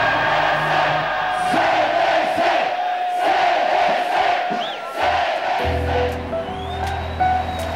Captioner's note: Chanting: UDF, UDF, UDF